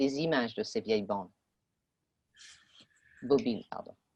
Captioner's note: speaking French